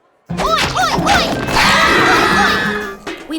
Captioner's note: scream